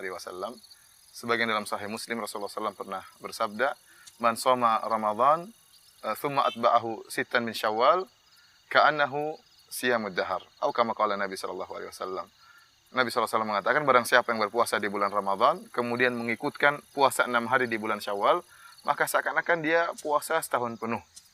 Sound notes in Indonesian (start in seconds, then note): 3.7 Arabic